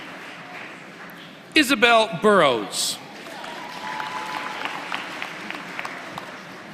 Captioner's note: applause